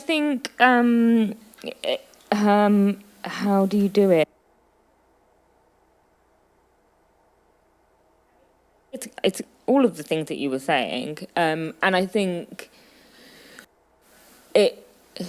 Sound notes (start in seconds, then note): 4.5 audio cutting out